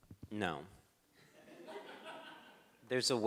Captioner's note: crowd laughs